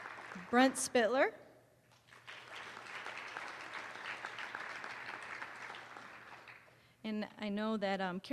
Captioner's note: applause; applause